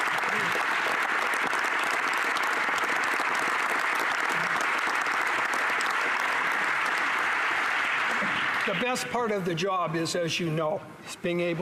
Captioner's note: applause